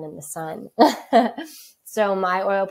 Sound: laughs

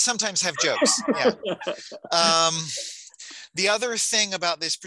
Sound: laughing

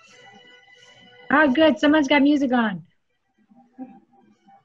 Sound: laughter

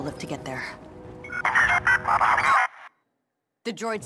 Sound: beeps

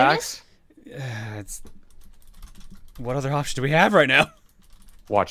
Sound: sigh

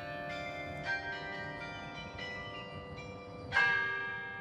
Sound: church bells chime

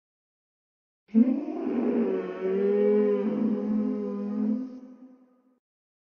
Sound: sound of ghost crying

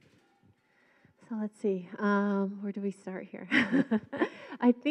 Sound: chuckles

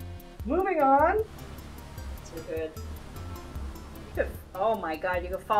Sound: none

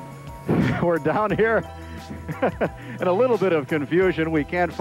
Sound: laughs

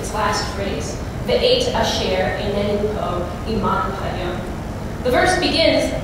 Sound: non-english speech

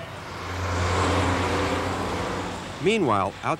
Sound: engine revving

